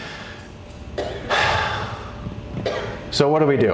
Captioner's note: deep pained sigh